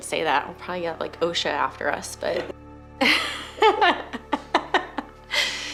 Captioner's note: laughs